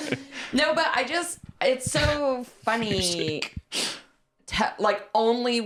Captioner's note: laughing